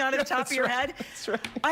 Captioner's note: laughing